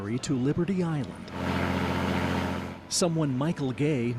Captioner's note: nats waves/water